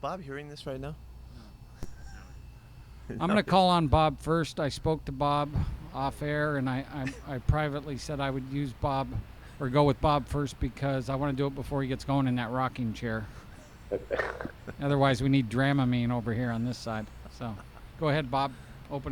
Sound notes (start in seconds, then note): 13.8 Pete laughs